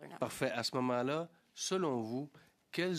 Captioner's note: speaking French